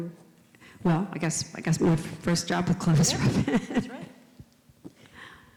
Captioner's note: laughs